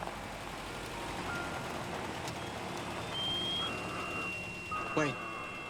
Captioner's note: alarm